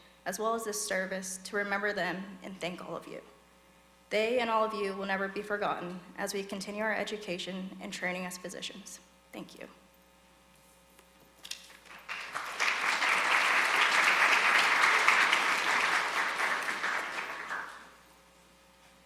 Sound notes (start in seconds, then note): 11.7 audience applauding